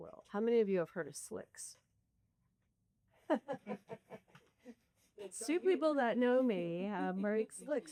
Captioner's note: laughter